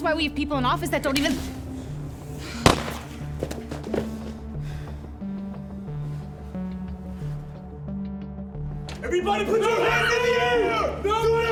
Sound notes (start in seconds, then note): 2.6 gunshot echoing; 2.9 tense music